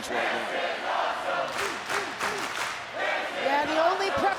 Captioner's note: crowd chanting